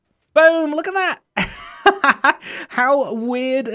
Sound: chuckles

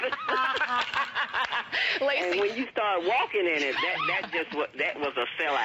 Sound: laughter

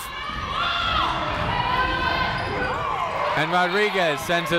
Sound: people shouting in the crowd

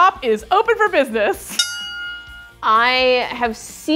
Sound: bell rings

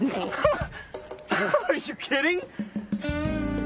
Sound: laughs

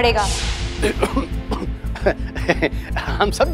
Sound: coughs

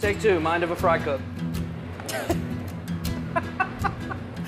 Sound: laughing

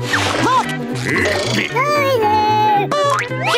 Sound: squeaking

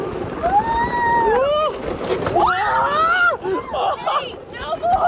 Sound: people screaming

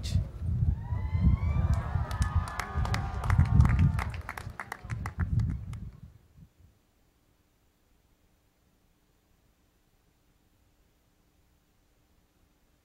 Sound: cheering and Applause

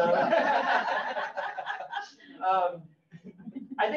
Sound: all laughing

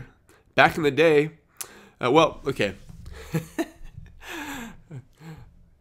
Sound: laughs

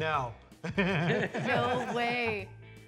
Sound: laughing

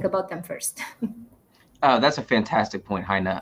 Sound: chuckles

